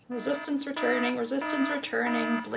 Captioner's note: alarm blares